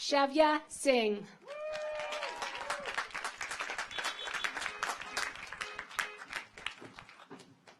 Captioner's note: car horns honking; audience applauds